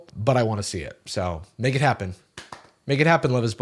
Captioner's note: claps